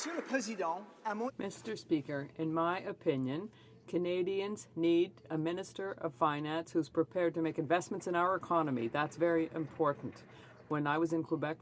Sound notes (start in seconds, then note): 4.0 speaking French